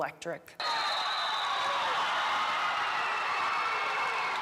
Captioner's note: fans cheering